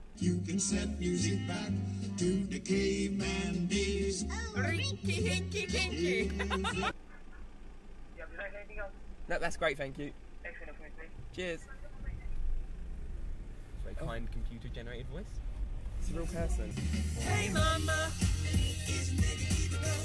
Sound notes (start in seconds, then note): 5.0 laughing